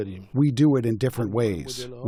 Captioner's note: through translator